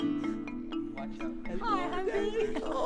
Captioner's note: women speaking